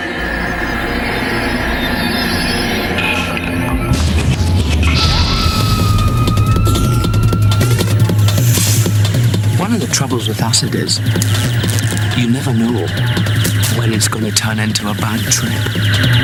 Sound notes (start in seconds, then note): 0.2 music grows distorted; 8.0 snakes hissing